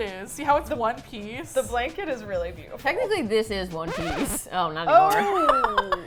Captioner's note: record scratch; laughs